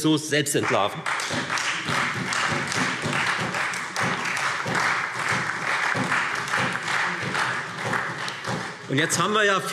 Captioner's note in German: Beifall Freie Demokraten und vereinzelt SPD